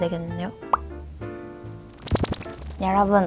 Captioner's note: sip